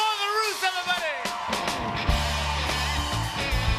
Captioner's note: cheers and applause